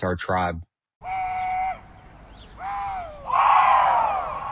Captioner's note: man screaming